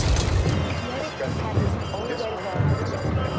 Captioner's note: intense chattering